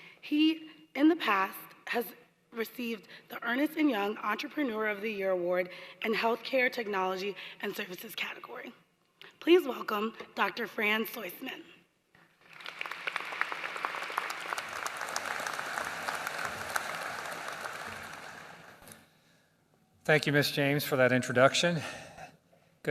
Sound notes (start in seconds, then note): 12.3 applause